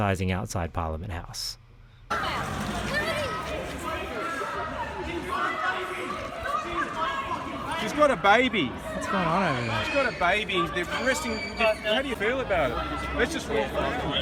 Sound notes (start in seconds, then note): 2.8 horrified screaming in the distance